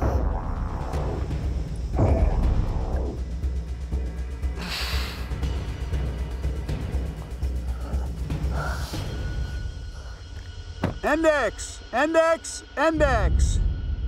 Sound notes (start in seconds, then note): 0.2 dramatic music; 4.9 heavy breathing